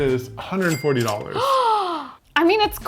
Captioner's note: gasping